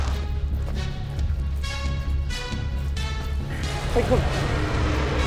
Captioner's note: dragon growls; dramatic music